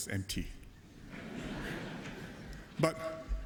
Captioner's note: laughter